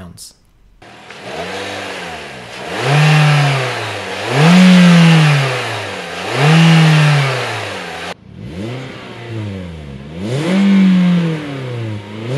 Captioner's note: engine